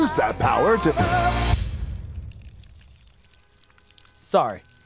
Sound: peeing

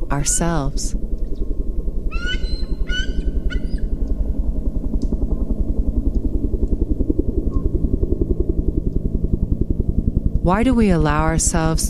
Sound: piercing call bird continues, helicopter thrums overhead

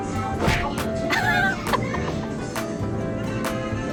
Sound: laughing

